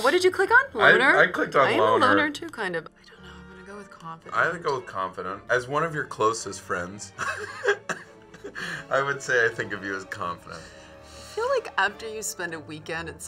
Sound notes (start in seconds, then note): 7.2 laughs